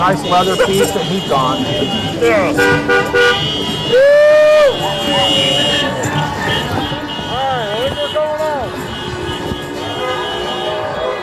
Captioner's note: crowd cheering